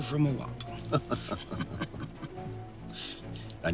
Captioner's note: both laughing